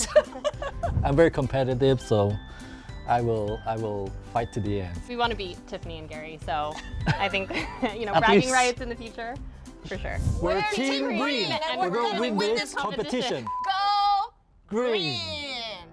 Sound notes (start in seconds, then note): 6.8 laugh